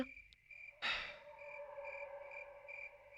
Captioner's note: dog Barking